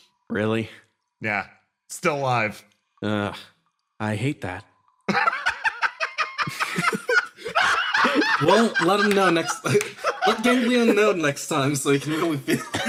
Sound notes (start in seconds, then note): 5.1 laugh; 9.6 laughing